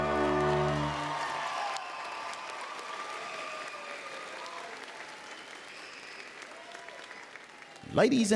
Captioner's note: applause